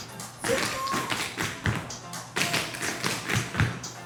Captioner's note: upbeat music; tap shoes clacking